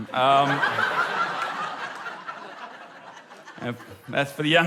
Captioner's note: laughter